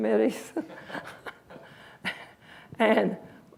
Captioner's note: laughs